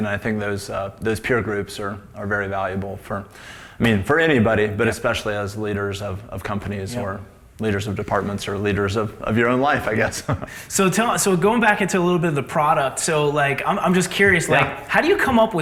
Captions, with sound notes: I think those peer groups are very valuable for, I mean, for anybody but especially as leaders of companies or leaders of departments or leaders of your own life, I guess. (laughs) - So tell us, going back into a little bit of the product, so I'm just curious how do you come up